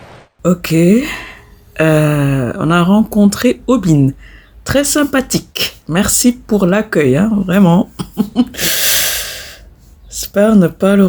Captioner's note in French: Rires